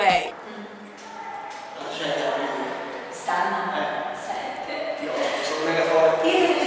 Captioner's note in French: 2 italiens parlent pendant le cours